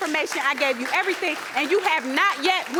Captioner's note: audience applauding